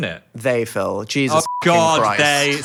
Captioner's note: beep